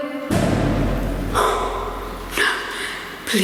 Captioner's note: door banging